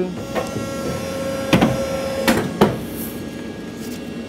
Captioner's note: whirring